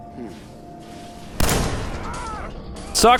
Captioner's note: blam!